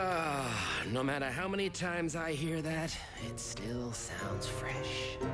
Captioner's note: groans